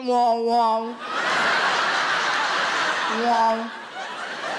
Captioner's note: audience laughs